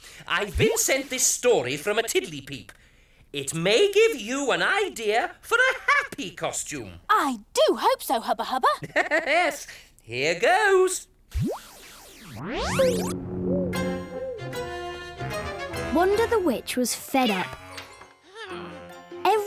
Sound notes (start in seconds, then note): 8.4 laughs; 11.3 zapping sound; 12.7 suspenseful music